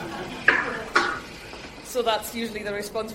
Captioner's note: crowd laughing